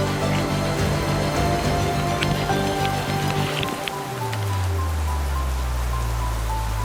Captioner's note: rain pouring; footsteps squishing